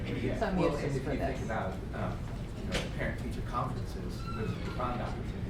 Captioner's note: voiceover